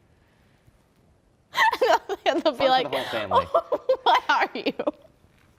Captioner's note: through laughter